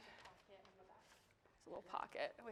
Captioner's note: participant faintly speaking